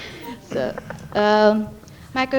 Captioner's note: laughter